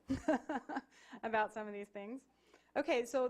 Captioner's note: laughing